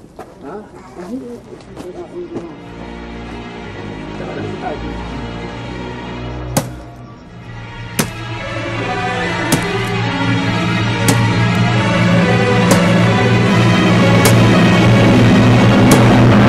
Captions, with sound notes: Huh? Don’t you dare... [foreboding music playing] [chops] [foreboding music intensifies]